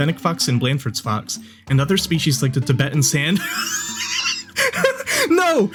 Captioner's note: dies wheezing